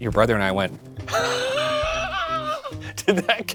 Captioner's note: laughs